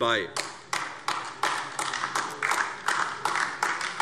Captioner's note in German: Beifall AfD